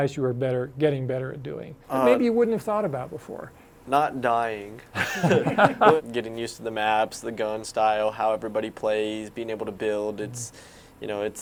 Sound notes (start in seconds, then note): 4.9 all laughing